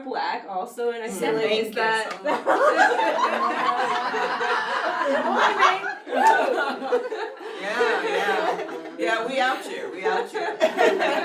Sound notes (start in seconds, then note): 2.2 laughter